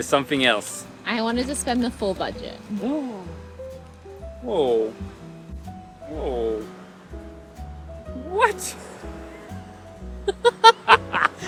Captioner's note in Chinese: 笑聲